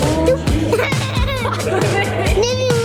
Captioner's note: laughing